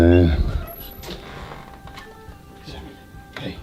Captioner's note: dog whines